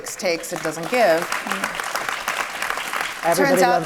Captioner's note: audience applauds